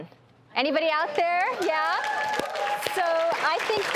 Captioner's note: audience applauding